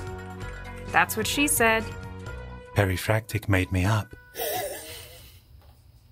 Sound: laughs

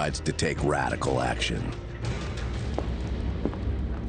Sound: boots clopping

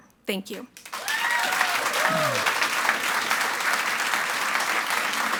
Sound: audience applauds and cheers

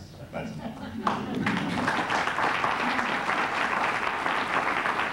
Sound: applause

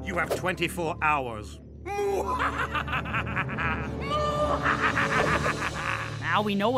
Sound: evil laugh

